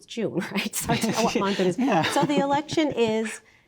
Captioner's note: laughing